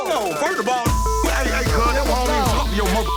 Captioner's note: beeping